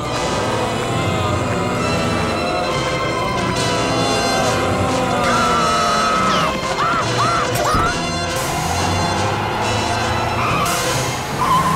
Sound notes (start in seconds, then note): 4.8 screams